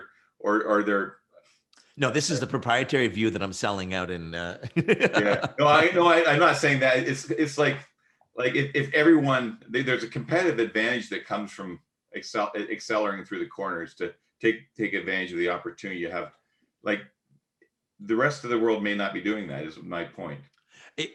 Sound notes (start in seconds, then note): 4.6 laughs